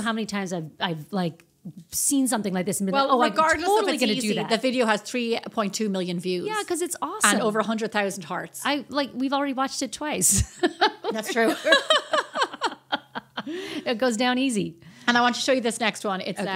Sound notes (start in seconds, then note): 10.4 laughing